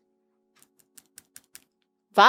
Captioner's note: nails clinking